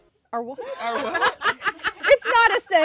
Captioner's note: laughs